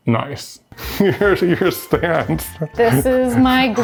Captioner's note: laughs